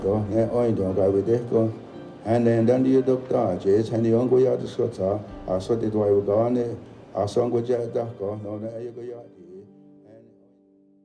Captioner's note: non-english speech